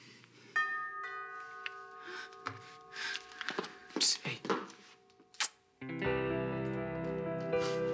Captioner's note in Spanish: Timbre de la puerta